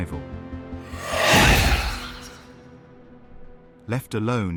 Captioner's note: wind whooshing